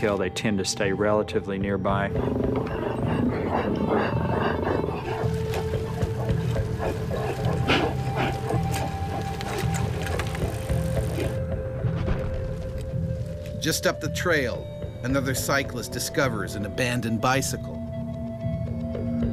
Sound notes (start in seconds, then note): 2.9 growling; 6.4 suspenseful music; 13.8 voiceover